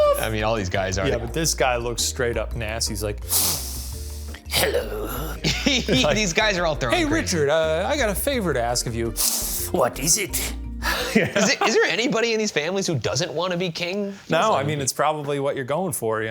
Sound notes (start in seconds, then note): 4.6 laughs